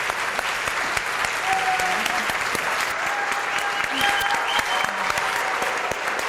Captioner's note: audience applauding and cheering